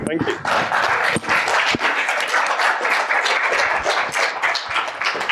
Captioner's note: applause